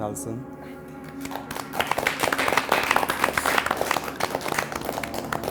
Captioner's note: group applauds